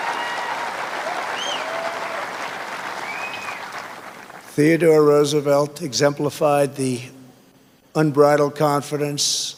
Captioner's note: cheers and applause